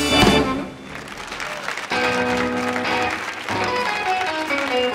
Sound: audience applauds; relaxed blues music

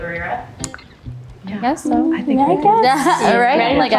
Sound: chattering in agreement

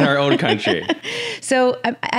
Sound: both laughs

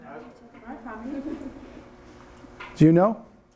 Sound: students mumbling

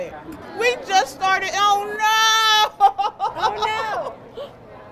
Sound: laughs

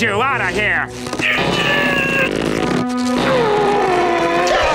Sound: grunting

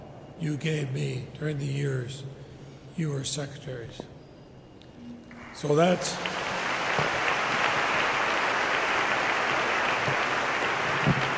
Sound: applause

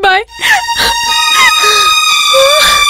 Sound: crying

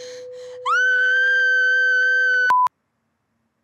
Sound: screams

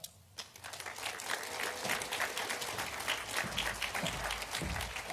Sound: audience applauding

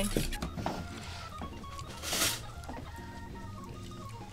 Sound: lips smacking

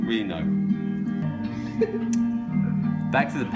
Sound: person chuckles nearby

